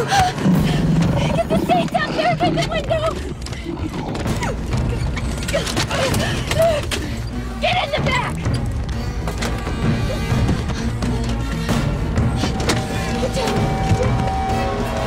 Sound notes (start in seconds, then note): 0.0 Gasping